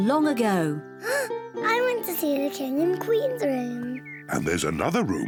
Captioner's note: gasps